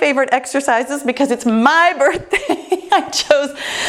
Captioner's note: laughs